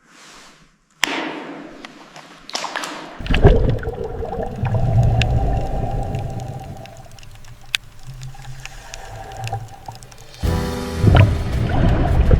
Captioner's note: water bubbling; instrumental music